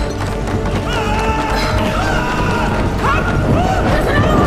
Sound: moaning; man yelling

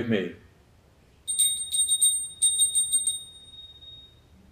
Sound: bell rings

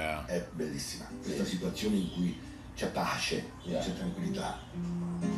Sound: speaking Italian

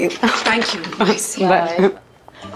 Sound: laughs

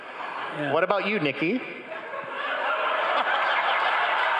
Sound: crowd laughing

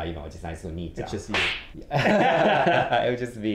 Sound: laugh

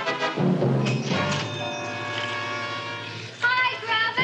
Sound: doorbell jingling

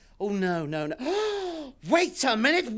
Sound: gasps

